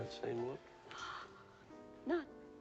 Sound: gasps

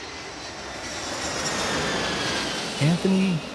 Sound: airplane flying

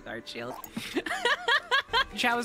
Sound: laughing; laughter

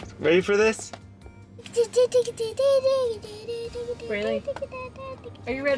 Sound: speaking gibberish

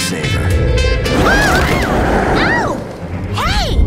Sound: loud scary growl

